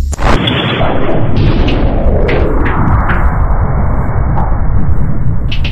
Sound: explosion

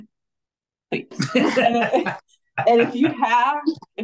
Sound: everybody laughing

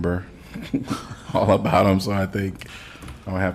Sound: laughter

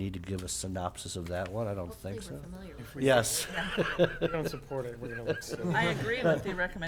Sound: laughing

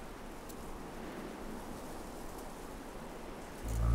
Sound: cow moos

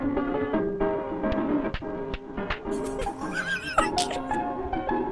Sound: slaps; laughs

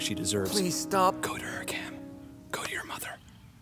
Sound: whispering

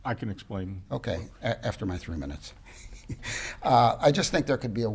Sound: laughs

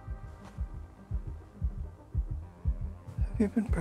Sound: baby heartbeat

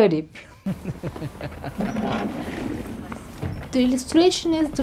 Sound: the sounds of a group of people entering a room fade in

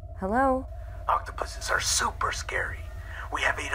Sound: on phone

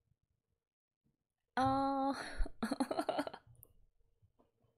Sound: laughs

